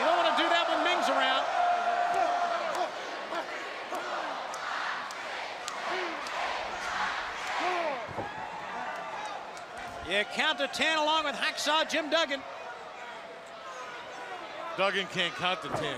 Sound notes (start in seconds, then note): 2.1 crowd cheering; 11.8 crowd chatter